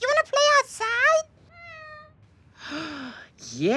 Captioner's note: cat meows; gasps